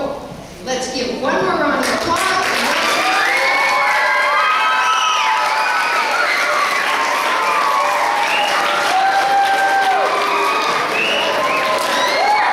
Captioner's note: clapping